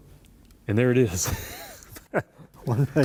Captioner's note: laughter